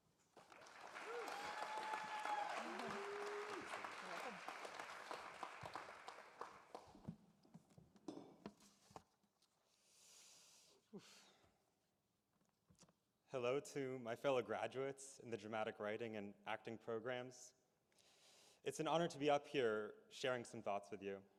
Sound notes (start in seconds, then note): 7.2 applause